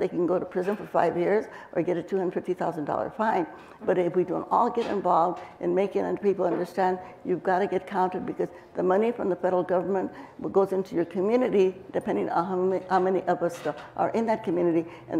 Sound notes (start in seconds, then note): none